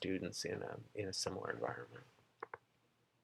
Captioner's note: clicking noise